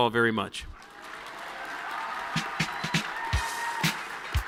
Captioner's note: audience cheering; upbeat music